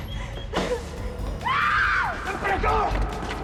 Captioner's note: screams